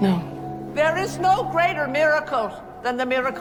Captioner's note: voiceover